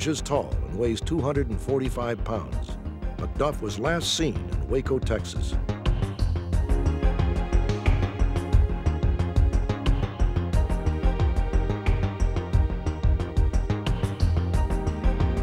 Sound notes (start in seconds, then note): none